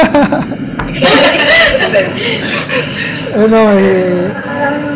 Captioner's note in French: rire